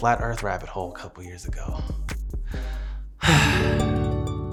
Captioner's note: sighs